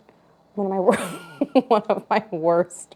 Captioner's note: laughs